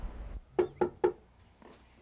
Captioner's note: knock on door